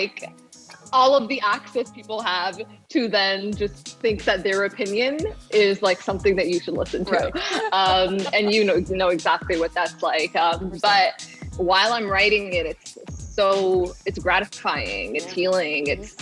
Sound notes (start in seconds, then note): 7.0 laughs